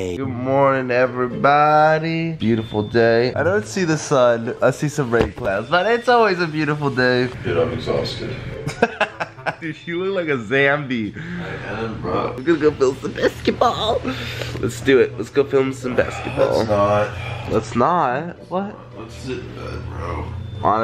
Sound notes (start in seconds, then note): 8.6 man happy laughing